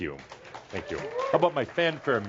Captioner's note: audience applause